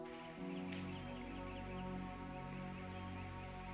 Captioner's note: birds chirping